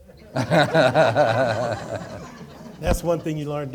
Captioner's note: audience laughing